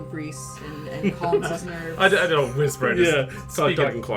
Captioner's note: laughing, crosstalk; whisper; also chuckling